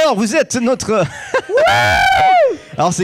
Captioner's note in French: Cris du public